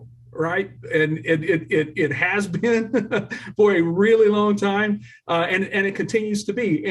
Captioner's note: laughter